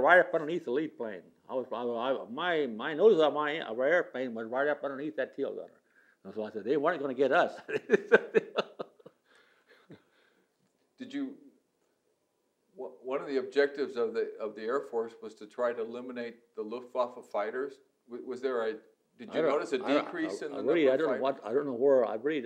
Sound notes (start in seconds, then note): 7.6 laughs